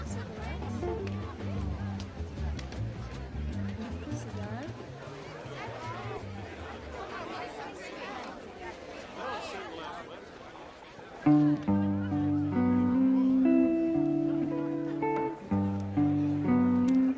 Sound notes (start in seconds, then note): 0.0 gentle music; 0.0 patrons chatter; 2.8 gentle music; 2.8 patrons chatter; 10.9 patrons chatter; 11.2 gentle strumming music